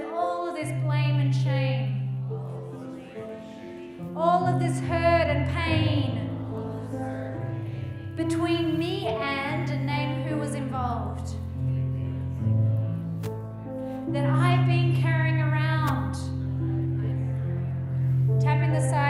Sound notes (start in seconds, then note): 11.8 group muttering